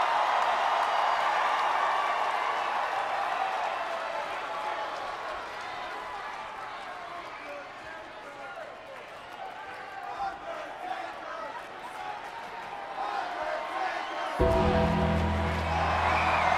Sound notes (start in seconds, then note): 10.2 audience chanting and clapping; 14.4 ominous music